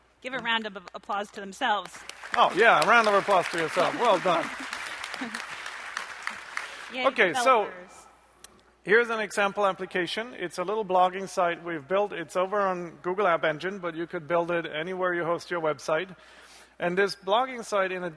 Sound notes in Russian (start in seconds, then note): 1.8 аплодисменты; 6.8 радостно